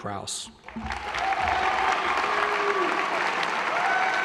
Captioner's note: applause